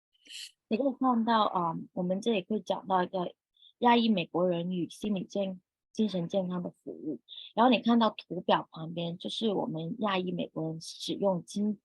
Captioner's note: speaking chinese